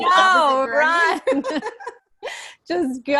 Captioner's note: laughter